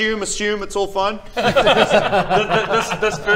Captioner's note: unconvinced laughs